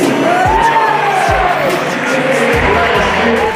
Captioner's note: cheers